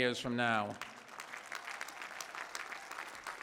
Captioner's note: applause